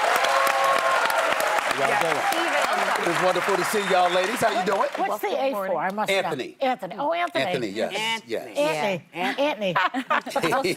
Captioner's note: applause